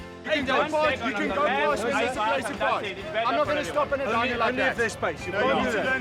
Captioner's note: arguing